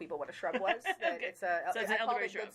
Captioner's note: laughing